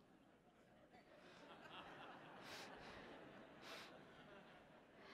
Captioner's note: audience laughing